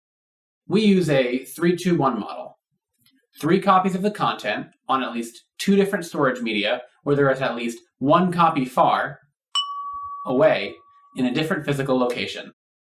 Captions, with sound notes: We use a 3, 2, 1 model. Three copies of the content on at least two different storage media, where there's at least one copy far... (DING!) ..away in a different physical location.